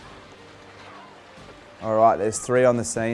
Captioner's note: intense music; splashing